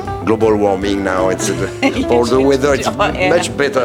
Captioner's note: laughs